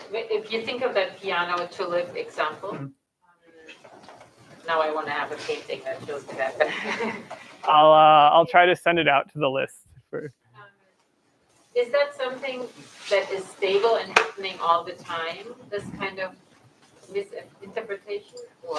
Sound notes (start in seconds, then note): 6.5 laughs